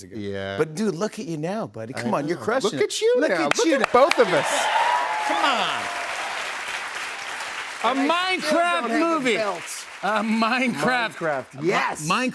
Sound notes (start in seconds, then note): 3.5 cheers and applause